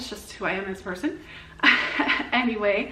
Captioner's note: laughs